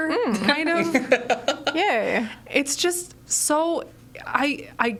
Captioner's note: laughs